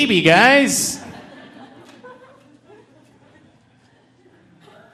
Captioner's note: audience laughing